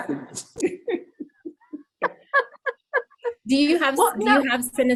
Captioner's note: laughs